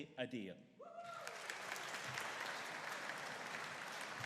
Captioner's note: audience cheering